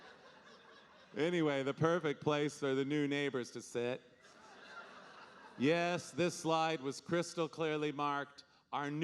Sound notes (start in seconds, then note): 4.2 audience laughing